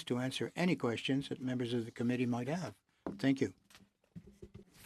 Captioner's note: speaking French